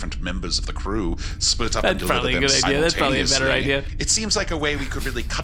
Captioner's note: laughing